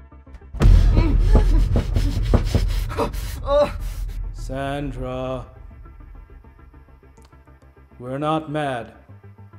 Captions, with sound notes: (door thudding) (Caleb gasping) - Sandra, we're not mad.